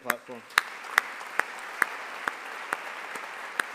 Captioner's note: all applauding